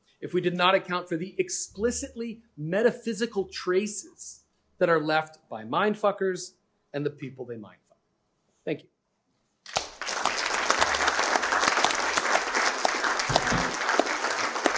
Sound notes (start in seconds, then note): 9.6 applause